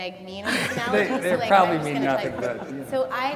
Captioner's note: laughter